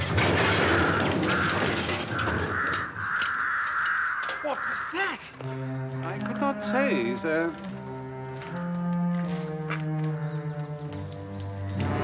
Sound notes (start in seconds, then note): 0.4 crows cawing